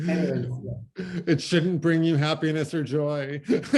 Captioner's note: laughter